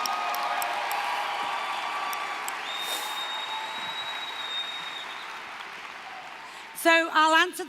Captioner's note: applause, cheering